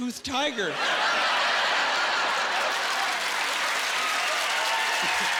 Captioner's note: laughing